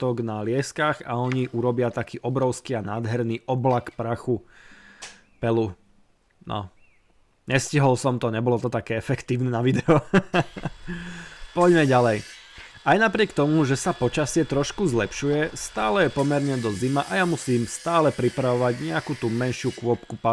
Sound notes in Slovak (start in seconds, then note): 9.7 smiech